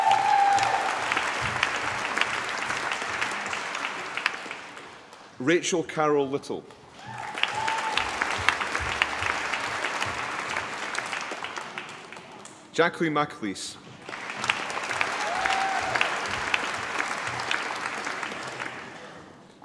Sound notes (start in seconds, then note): 0.0 applause; 6.9 applause; 13.9 applause